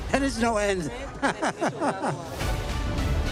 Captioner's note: laughs; vibrant music